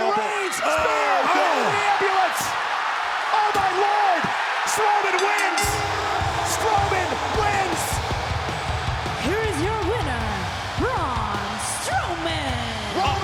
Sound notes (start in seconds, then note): 5.1 bell rings